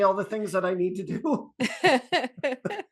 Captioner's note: laughter